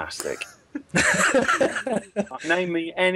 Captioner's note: laughter